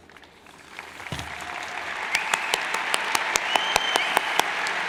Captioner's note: cheers and applauds